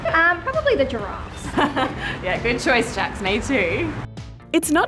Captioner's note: laughs